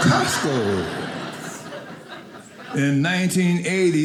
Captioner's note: audience laughing